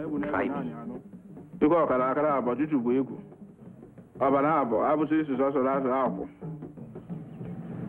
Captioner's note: witch doctor speaking in foreign language; car rumbles to a stop